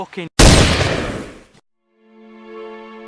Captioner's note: gun shot